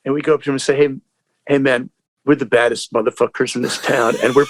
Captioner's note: laughter